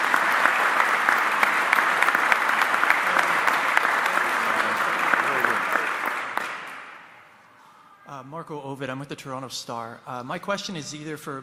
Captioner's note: applause